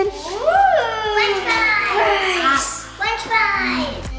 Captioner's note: children oohing